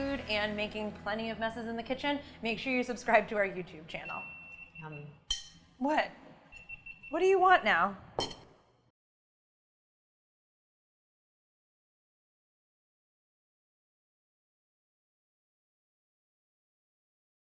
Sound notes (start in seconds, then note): 4.0 multi-cooker beeps